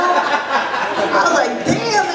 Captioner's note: laughter